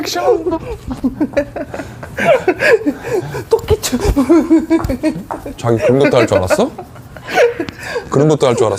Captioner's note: laughs